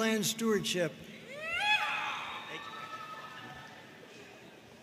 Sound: audience cheering

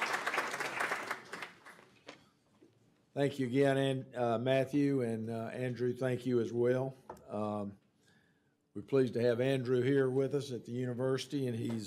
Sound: applause

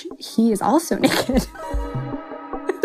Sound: laughs

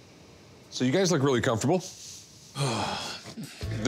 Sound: sighs

